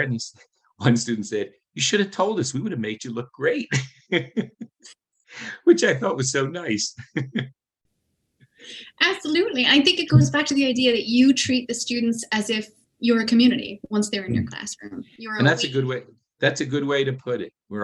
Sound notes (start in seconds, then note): 6.9 chuckles